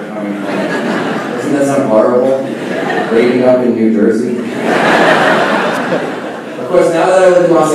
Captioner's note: laughing